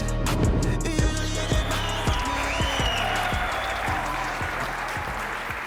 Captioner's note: audience cheering